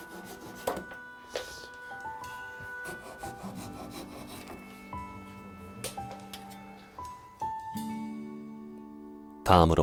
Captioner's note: sawing sound